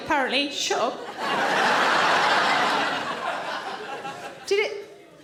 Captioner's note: audience laughing